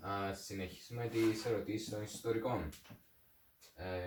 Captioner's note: flips through pages